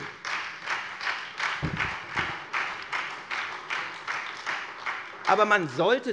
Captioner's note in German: Beifall SPD und Freie Demokraten